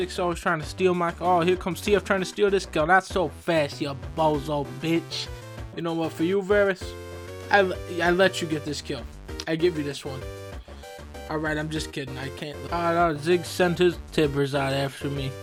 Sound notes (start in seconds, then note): none